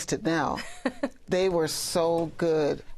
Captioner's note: laughs